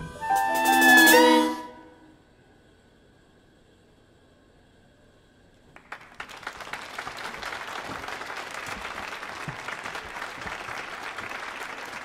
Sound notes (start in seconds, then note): 0.0 dramatic music swells; 5.7 audience applauding